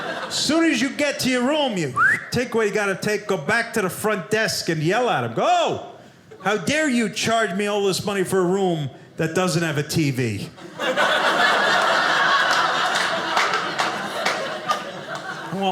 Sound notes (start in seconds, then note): 0.0 audience laughing; 1.9 whistling sound; 10.6 audience laughing